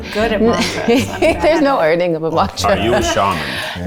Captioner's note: laughs